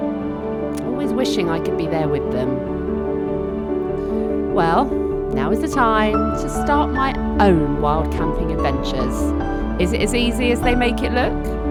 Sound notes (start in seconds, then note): none